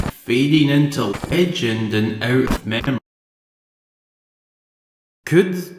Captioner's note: glitching out